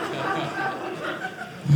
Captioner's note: audience laughing